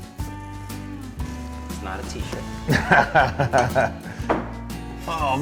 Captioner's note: laughs